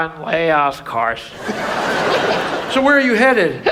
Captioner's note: audience laughs